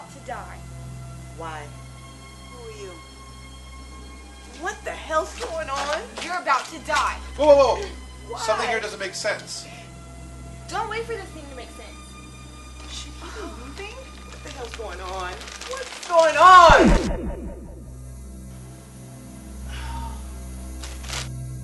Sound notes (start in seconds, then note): 5.3 running feet; 13.7 crumple of plastic; 16.4 deputy sighs; 16.6 zap